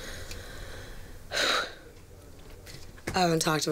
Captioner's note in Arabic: تنهد